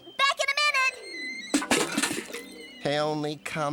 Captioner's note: clatters